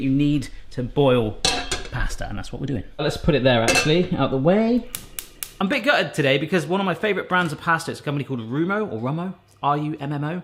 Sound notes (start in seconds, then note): 1.4 pan clanks; 5.4 clicks